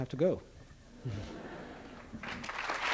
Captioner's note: laughter; applause